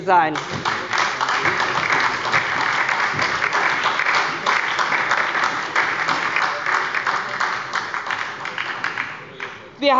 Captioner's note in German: Beifall bei der SPD und der LINKEN